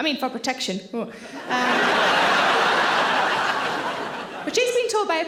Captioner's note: audience laughing